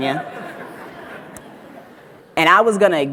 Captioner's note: audience laughs